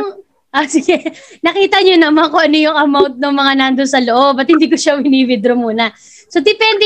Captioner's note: laughs